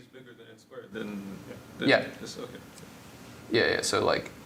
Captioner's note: indistinct conversation